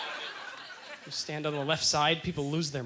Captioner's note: audience laughter